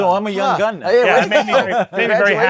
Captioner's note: laughs